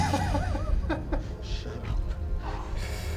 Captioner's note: Billy laughs